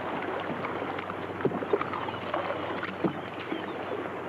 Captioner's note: water laps